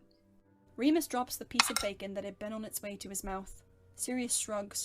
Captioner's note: food and fork scutter